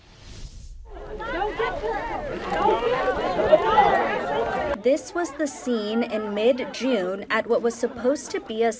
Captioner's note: collective chatter